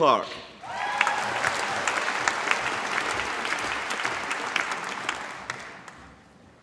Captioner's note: applause